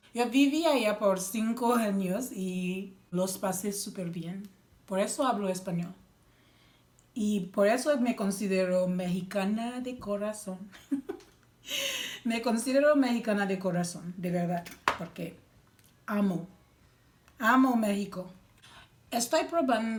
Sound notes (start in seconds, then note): 10.8 laughs